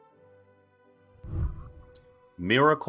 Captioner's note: whooshing